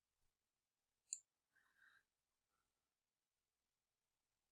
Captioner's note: mouse clicking